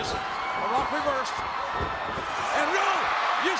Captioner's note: spectators cheering